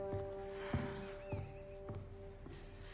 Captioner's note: exhales